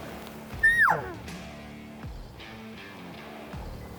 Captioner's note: horn bugling